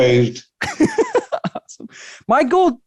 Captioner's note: chuckles